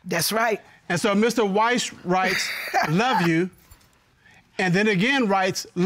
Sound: laughs

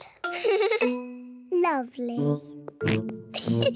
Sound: giggles; george oinks; giggles

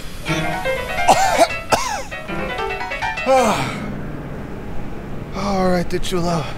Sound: coughs

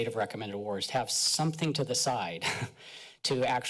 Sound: chuckles

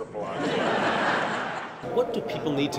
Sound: laughter

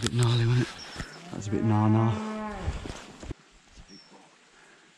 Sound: cow mooing

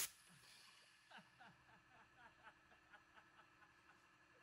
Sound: laughing

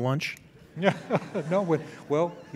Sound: laughing

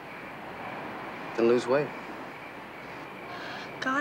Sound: sighs

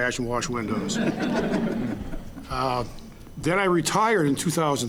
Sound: audience laughing

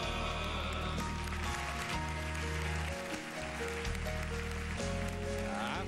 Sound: applause

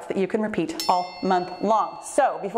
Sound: bell chimes

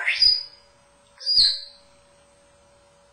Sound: tweet sound

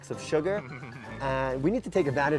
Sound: laughs

